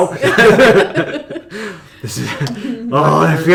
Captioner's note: laughter